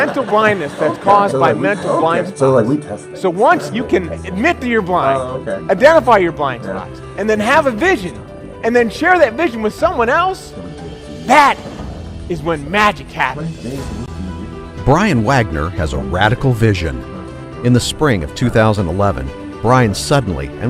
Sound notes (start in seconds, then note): 0.0 crowd laughs; 15.2 voiceover